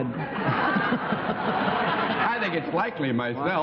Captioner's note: laughter